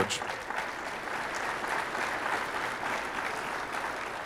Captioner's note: audience applauding